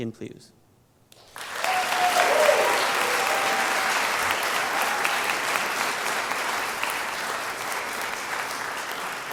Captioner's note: applause